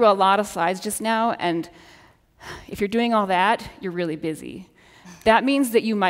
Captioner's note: sighs